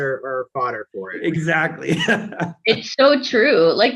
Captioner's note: laughs